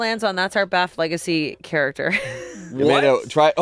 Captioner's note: laughs